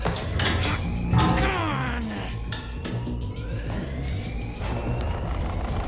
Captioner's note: sounds of effort